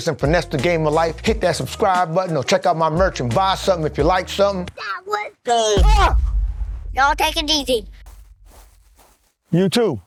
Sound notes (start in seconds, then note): 4.8 host screams; 5.5 kid shouts